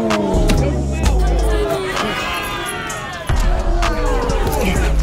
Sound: grunting and rustling

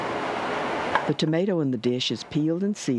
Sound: voiceover

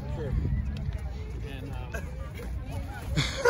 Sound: chuckles; laughing again like this

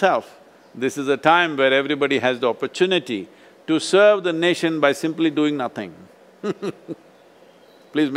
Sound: laughs

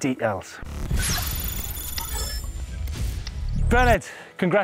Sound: electric whirring

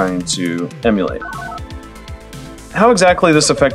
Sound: analog beeps

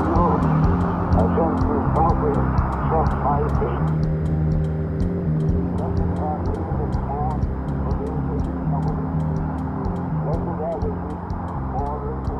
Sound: losing signal

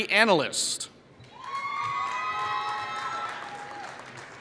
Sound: applause

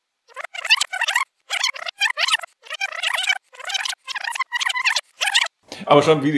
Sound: video fast rewinds

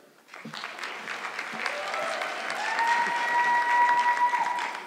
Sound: audience clapping

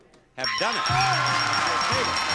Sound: audience cheering

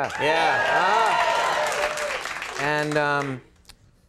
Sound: applause

